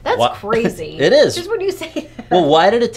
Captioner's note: laughs